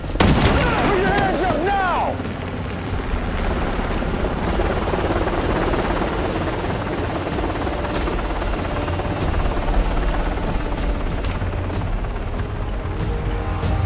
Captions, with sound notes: [gunshot] Put your hands up! Now! [helicopter approaching]